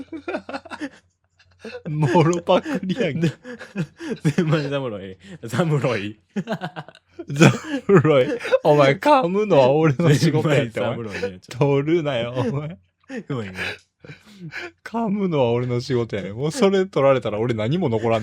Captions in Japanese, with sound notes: [笑い] もろくりや。侍ムろい。侍ムろい。いい。お前噛むのは俺の仕事や。 [笑い] 取るなよ。いう [笑い][息をのむ音] 噛むのは俺の仕事やね。もうそれ取られたら俺何も残らんねんから。お前